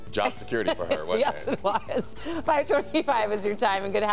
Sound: laughter

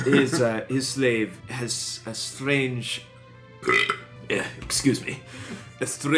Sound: burps

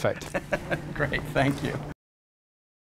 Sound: laughing

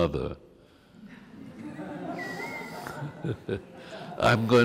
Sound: laughs

